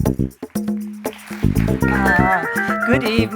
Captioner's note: applause